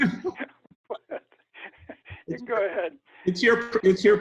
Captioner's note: laughs